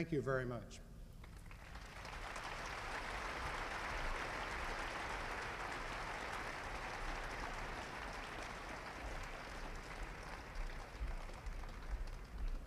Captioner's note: applause